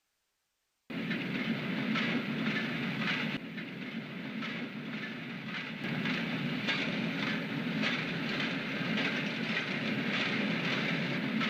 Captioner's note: rolling wheels sounds